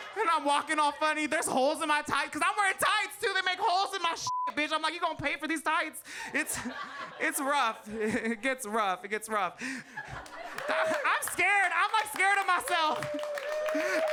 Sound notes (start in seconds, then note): 4.2 beep